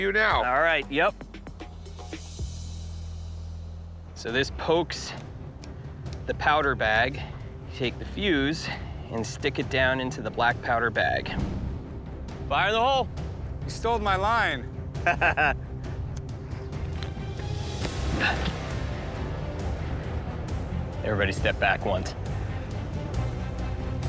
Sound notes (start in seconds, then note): 15.0 laughs; 16.2 tense music